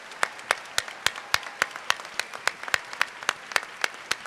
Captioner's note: applause